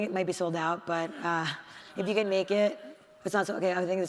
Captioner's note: participant speaks faintly